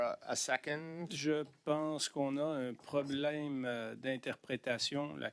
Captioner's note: speaking French